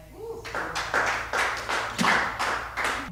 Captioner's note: applause